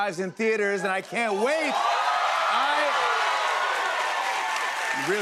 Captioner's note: cheers and applause